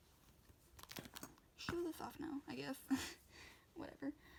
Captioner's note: laughs